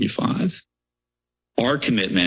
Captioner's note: pause